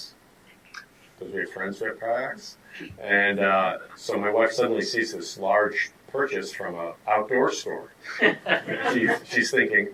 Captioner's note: audience laughter